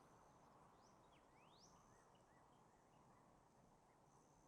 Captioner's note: birds singing